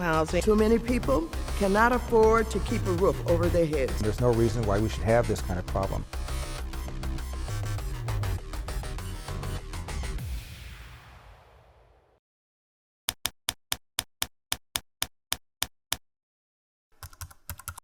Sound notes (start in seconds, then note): 6.4 techno music; 13.4 typewriter clicking